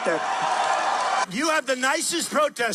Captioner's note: cheering